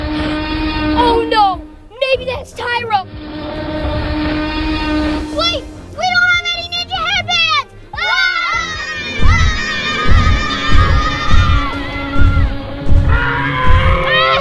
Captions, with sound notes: [distant roaring] Oh, no, maybe that's Tyro. Wait, we don't have any ninja head bands. [All screams] [loud stomping and roaring]